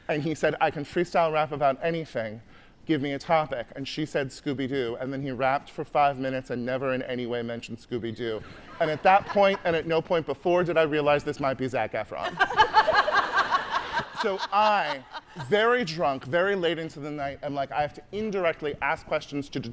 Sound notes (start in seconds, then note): 12.2 hosts laughing; 12.3 audience laughing